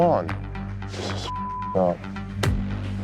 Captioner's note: beep